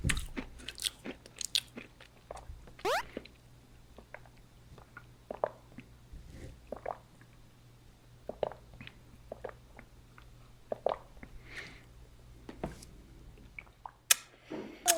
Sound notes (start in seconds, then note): 2.6 slirp; 4.1 gulp